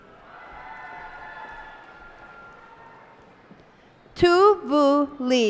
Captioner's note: cheers and applause